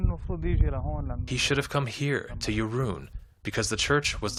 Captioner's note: through translator